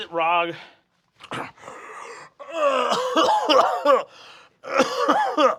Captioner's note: gasps